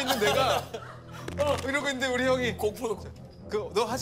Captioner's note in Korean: 형 발소리에 얼음